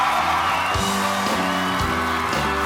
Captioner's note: applause